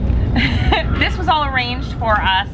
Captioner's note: laughs